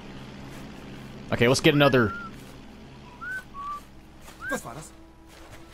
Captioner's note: whistling